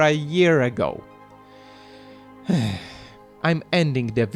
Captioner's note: sigh